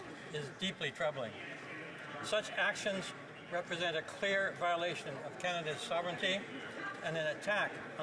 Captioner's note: none